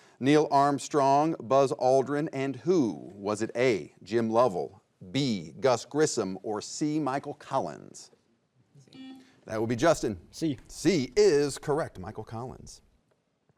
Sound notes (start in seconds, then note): 9.0 buzzer beeps